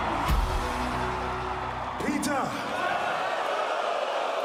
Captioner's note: crowd cheering